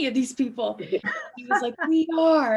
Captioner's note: laughing loudly